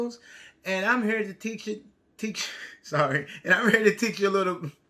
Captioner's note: stutters; chuckles